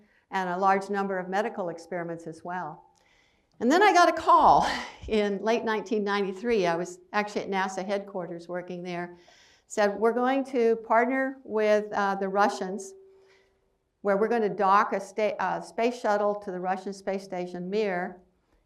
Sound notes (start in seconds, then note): none